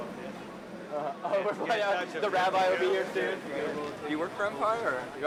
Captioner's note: laughs